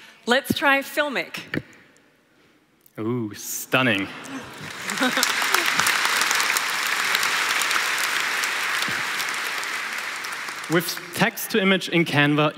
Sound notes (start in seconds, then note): 4.2 applause